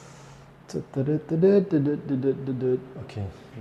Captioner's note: happily humming